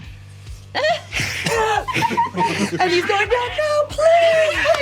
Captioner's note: hissing